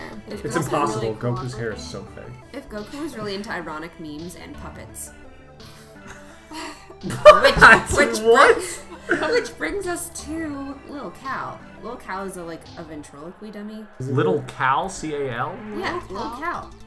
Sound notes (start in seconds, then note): 5.8 chuckles; 7.0 laughs